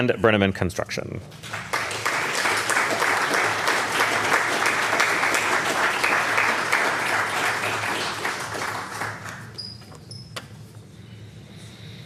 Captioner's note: applause